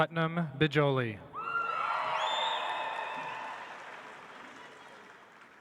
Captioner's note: audience applauds